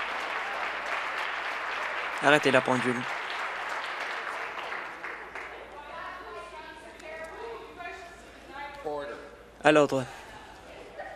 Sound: applause

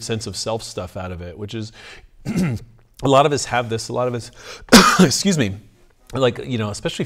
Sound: coughs

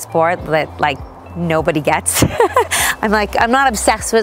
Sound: laughing

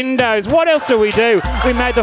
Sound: crowd laughs and cheers

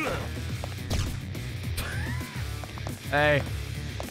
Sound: laughs

